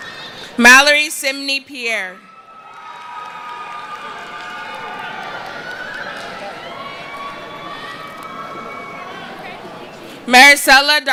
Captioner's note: cheering